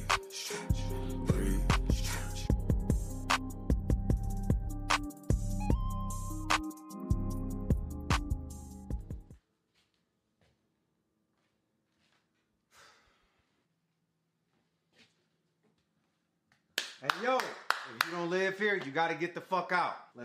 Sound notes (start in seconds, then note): 9.7 feet shuffle; 12.7 L sighs; 16.7 clapping